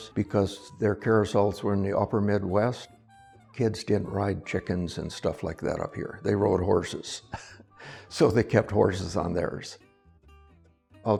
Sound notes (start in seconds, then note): 7.3 laughs